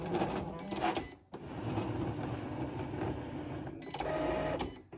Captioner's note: Cricut beeping